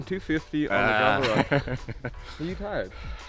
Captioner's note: laughing